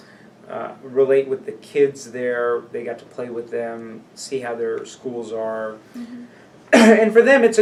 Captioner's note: coughs